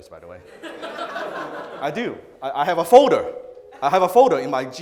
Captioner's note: audience laughs